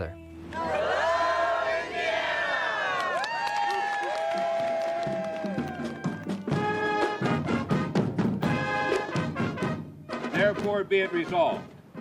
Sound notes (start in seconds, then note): 2.5 everyone cheers; 5.0 band plays